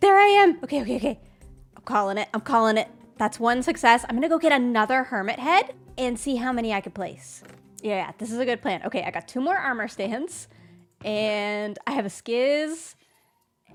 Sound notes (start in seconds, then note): none